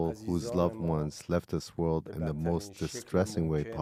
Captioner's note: speaking Alternate Language